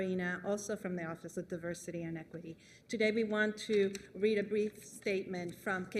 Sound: speaking spanish

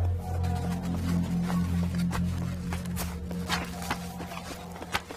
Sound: water splashes

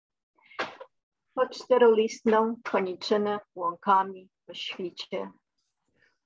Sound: speaking in Polish language

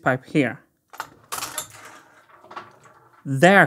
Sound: mechanism clicking

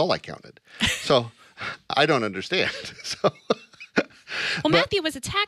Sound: laughs

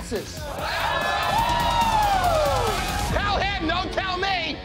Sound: patrons protesting

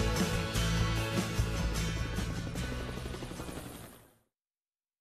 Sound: helicopter engine roars

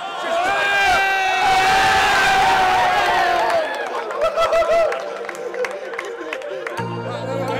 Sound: loud cheering from crowd; crowd cheering intensifies

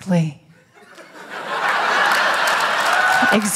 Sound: laughter

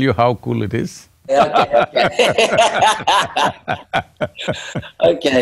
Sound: laughter

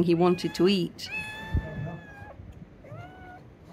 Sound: mewing continues

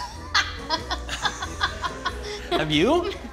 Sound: laughing

